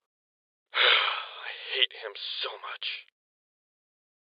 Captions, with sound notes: [sighs] I hate him so much.